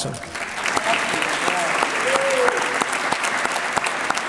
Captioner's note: applause